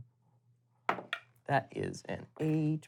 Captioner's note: dice hitting the table